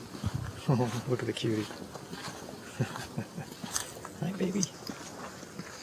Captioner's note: chuckles